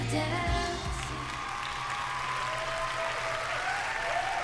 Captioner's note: applause